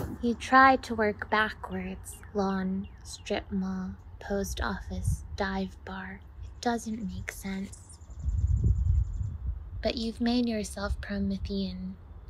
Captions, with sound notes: You try to work backwards. Lawn, Strip Mall, Post Office, Dive bar? It doesn’t make sense. [birds chirping softly] But you’ve made yourself Promethean.